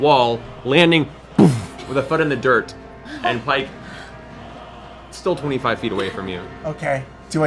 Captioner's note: boof